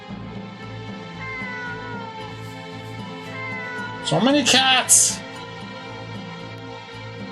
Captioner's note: cats meow